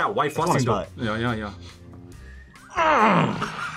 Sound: groans; laughs

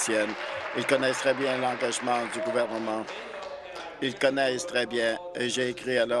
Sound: applause

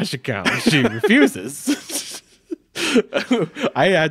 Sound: chuckling

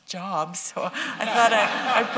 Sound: laughter

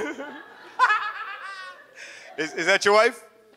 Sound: laughs; audience laughs

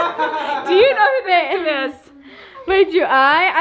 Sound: laughs

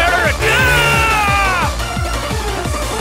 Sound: chainsword slash

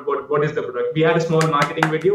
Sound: clapping

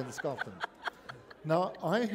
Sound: laughter

